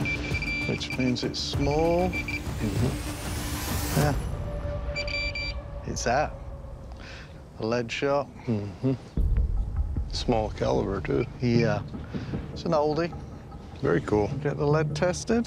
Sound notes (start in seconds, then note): 4.6 beeping